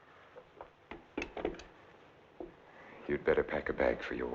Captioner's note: receiver thumping